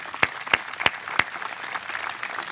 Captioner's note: applause